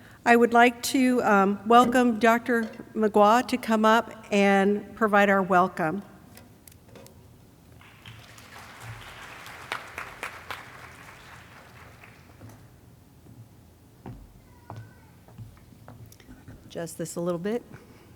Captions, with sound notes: I would like to welcome Dr. McWha to come up and provide our welcome. (audience clapping) (feet shuffling) - Adjust this a little bit.